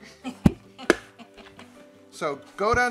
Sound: woman giggles

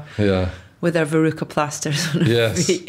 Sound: giggles

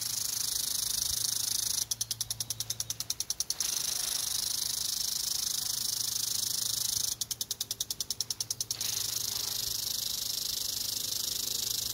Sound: sprinkler noise

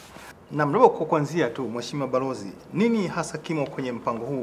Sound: speaking in swahili

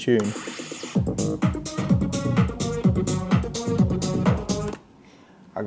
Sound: atmospheric sounds

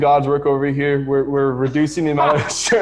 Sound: laughing

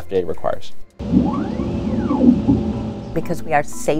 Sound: machine whirring

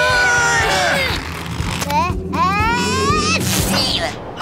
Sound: sneezing; thudding

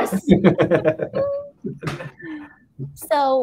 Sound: all laughing

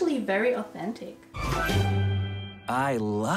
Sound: short audio cue

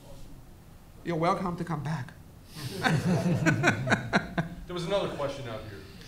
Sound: all laughs

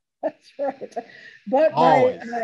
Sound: laughs

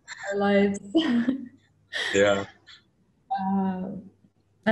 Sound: laughs

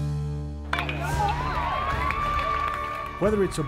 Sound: crowd cheering

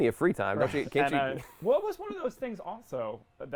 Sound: laughs

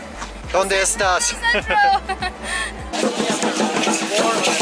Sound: laughs

